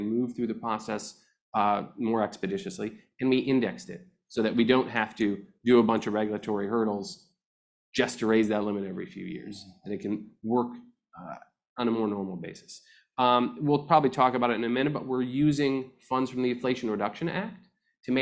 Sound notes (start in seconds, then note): none